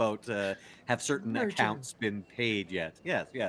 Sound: speaking faintly

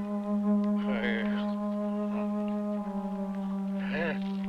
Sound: groaning

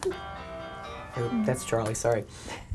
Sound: phone ringtone

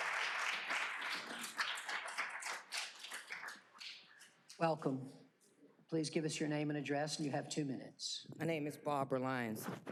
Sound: applause

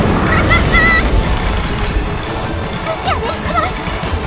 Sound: Bellatrix laughing

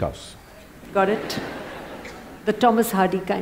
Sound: laughter

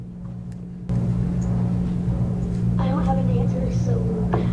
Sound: laughter

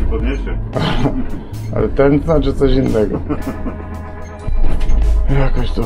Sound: laughter

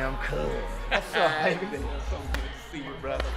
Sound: laughing

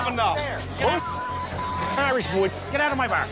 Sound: beep

